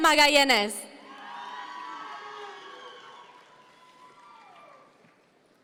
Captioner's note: audience members cheer